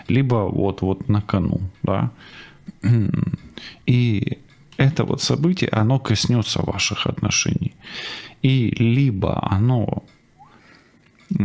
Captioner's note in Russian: откашливается